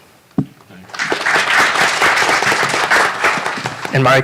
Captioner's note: applause